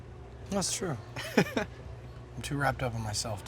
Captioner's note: laughs